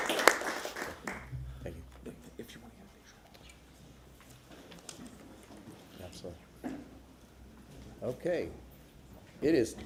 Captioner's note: applause